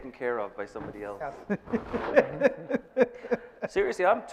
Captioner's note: laughing